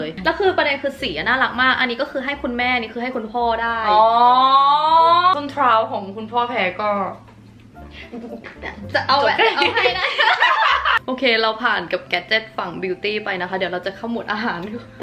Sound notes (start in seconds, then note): 9.4 laughing